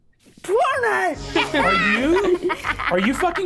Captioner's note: laughs